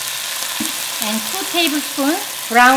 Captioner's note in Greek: τσιτσίρισμα